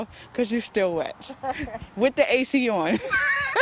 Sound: laughter

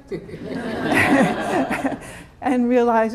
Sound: laughter

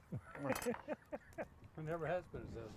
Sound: man laughs

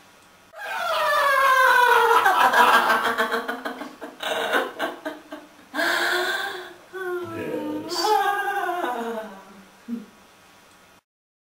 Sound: evil laughter

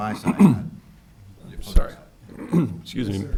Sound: clears throat

